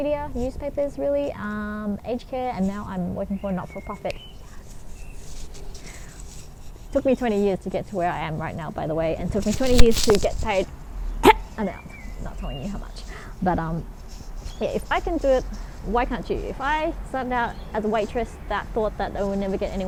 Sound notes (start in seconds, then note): 11.2 cough